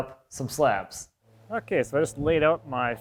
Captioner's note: background machinery humming